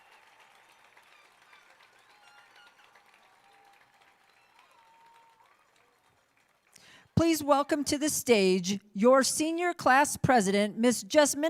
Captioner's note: applauding